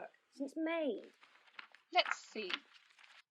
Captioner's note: paper rustling